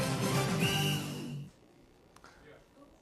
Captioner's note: whistle